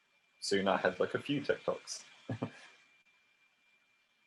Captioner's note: she chuckles